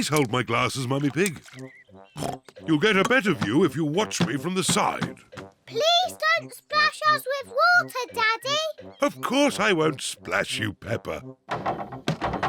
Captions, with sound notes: Please hold my glasses, Mummy Pig. (OINKS) You'll get a better view if you watch me from the side. Please don't splash us with water, Daddy! Of course I won't splash you, Peppa.